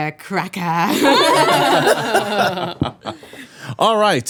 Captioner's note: laughing